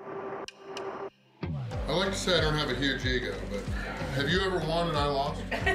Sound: haha

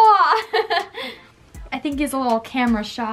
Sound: laughs

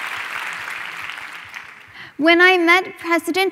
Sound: applause

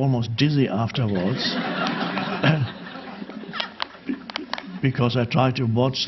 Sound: audience laughing

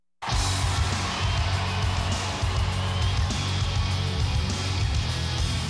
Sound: audience cheers; heavy metal music

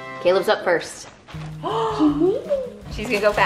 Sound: triumphant music; gasp

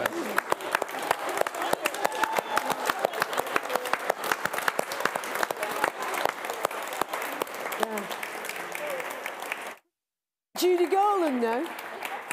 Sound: applause

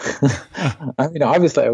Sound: laughing

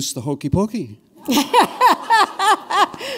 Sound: laughter

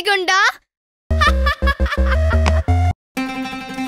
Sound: laughs

